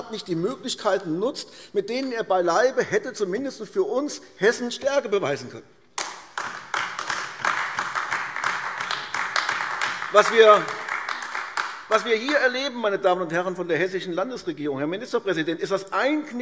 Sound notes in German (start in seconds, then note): 7.7 Beifall AfD